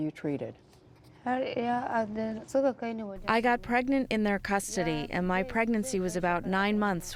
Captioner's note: through translator